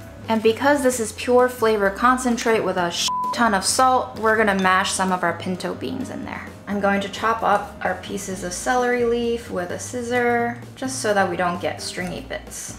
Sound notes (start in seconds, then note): 3.0 beep